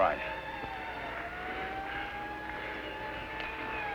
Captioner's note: distant sirens blaring